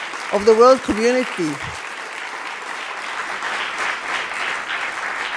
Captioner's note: audience applause